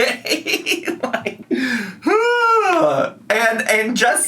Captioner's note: laughs and groans